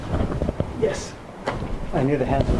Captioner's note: voiceover